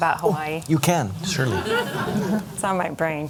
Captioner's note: laughter